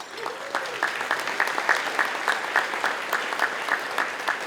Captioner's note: audience applauding